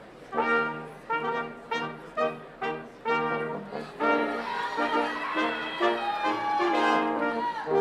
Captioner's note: brass quintet music; people cheering